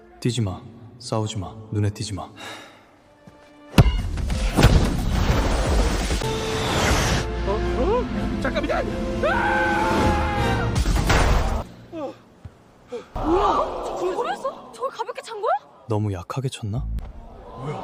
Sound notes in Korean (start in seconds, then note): 9.2 비명